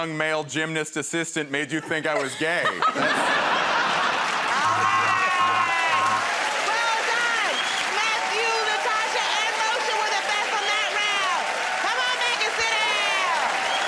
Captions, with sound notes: and young male gymnast assistant made you think I was gay? [ Laughter ] -All right. [ Cheers and applause ] Well done! Matthew, Natasha, and Moshe were the best from that round. Come on back and sit down.